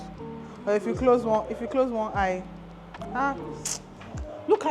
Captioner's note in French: sifflement